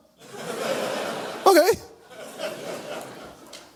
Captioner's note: audience laughs